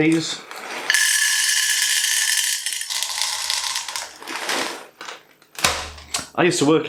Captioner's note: dried peas crashing into bowl